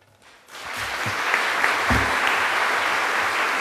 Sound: applause

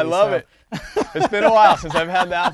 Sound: laughter

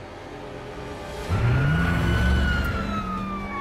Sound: siren blaring; tires screeching

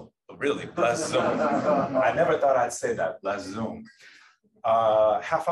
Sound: laughter

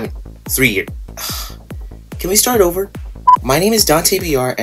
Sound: sighs; beep

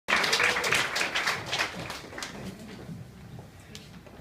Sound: applause

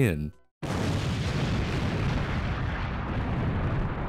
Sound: large explosion

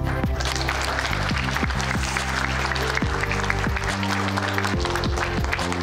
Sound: wedding guests applaud

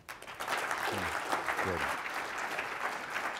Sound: applause

